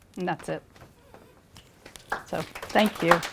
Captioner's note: applause